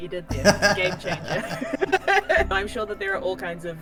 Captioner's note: both laugh